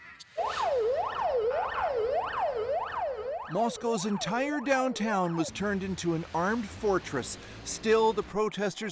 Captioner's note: alarms